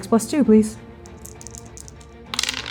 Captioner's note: dice rolling; shaking dice